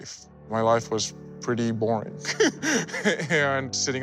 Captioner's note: laughs